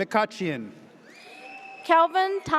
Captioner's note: audience cheers